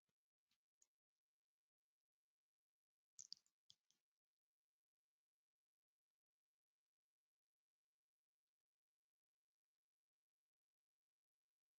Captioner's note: 17 seconds pause